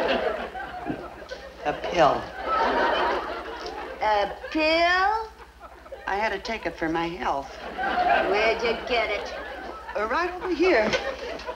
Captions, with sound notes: - A pill. (audience laughs) - A pill? - I had to take it for my health. (audience laughs) - Where'd you get it? - Right over here. See.